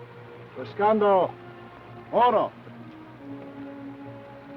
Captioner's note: Chief speaks foreign language; speaks foreign language